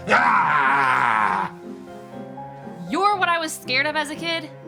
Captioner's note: growls